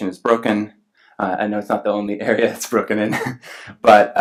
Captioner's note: laughs